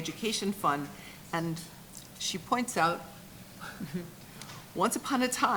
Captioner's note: chuckles